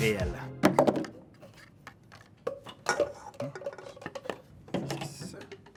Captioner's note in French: bruits sourds